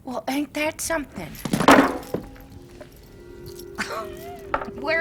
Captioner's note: gun bang on table